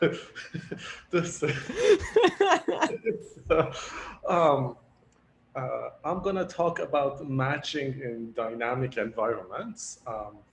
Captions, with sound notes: (both laugh) I'm gonna talk about Matching in Dynamic Environments.